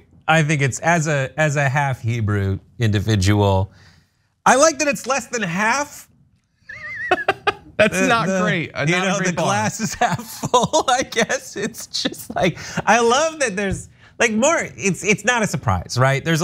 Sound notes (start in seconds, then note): 6.7 laugh; 11.0 laugh